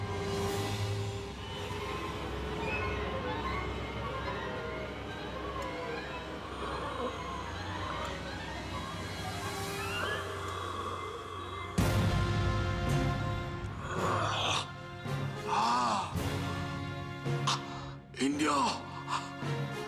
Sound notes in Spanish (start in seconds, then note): 6.4 ruido al respirar